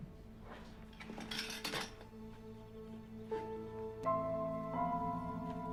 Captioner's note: materials clatter; suspenseful music